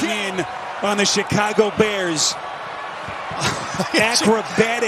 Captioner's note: laughter